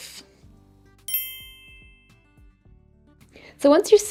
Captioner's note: screen chiming